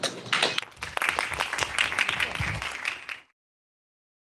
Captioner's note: applause